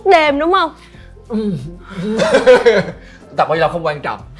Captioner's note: laugh